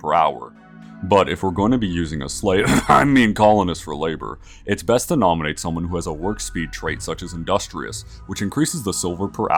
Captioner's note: ahem